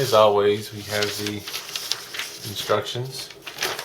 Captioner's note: paper rustling